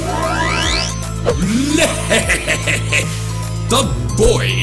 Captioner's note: laughs